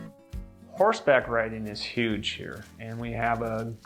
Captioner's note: voiceover